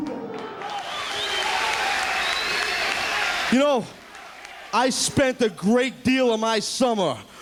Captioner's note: applause